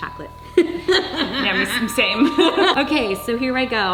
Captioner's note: laughing